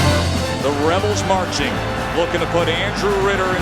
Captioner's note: voiceover